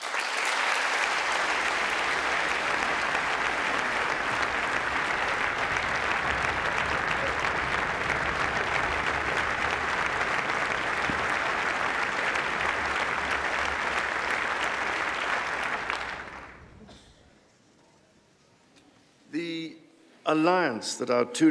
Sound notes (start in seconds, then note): 4.9 applause